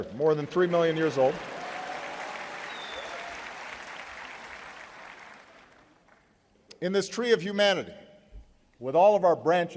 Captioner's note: applause